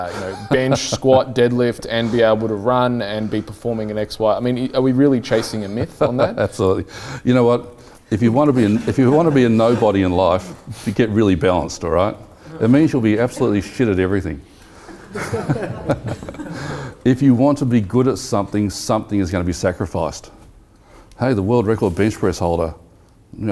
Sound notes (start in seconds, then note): 14.8 laughing